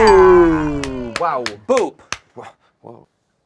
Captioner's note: bell dings; group cheers